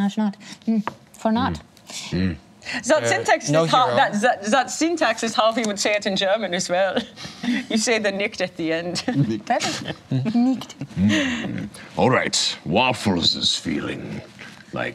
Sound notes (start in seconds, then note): 2.9 imitates German accent